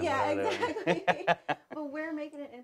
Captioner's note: laughs